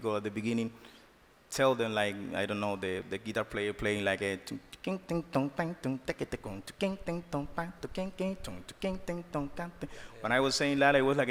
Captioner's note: sings beat